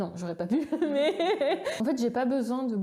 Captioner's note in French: rire